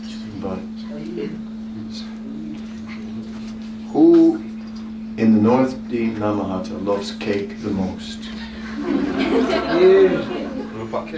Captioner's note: laughter